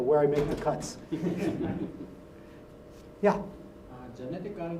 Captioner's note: laugh